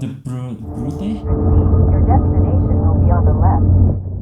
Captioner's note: automated voice